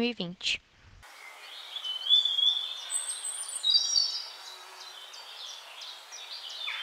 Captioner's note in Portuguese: Sons de pássaros cantando